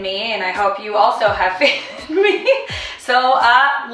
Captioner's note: laughing